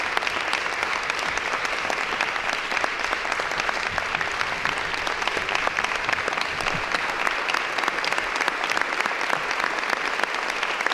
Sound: some Applause

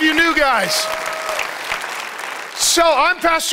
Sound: audience applauds and cheers

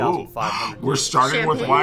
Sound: gasps

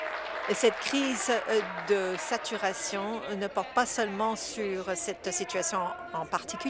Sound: applause

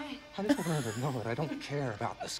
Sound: React laughs

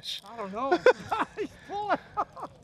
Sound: laughter

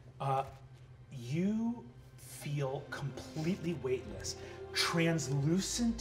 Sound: meditative vocalization

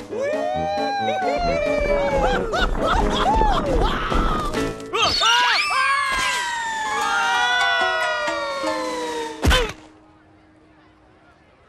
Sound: cheering

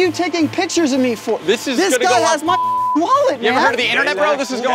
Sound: beep

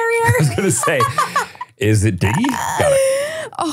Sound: laughs

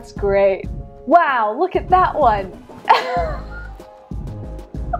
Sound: laughing

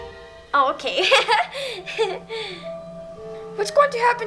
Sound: chuckles

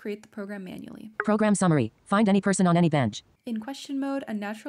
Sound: app speaking

